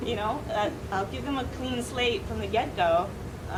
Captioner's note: none